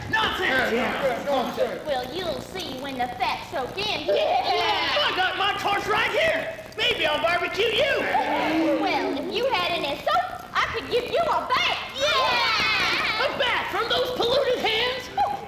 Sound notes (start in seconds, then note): 0.0 men voice agreement; 4.2 women voice agreement; 11.9 women cheer